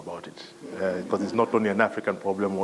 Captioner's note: laugh